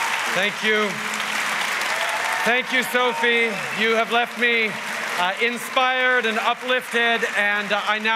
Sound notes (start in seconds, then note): 1.9 wild cheers & applause